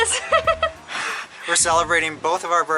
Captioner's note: laughter